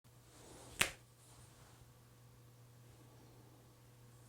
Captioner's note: snaps fingers